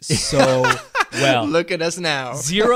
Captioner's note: laughs